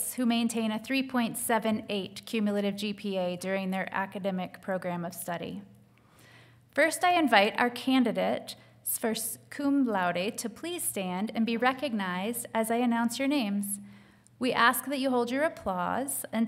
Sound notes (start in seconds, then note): none